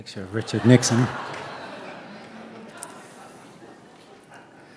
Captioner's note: audience laughing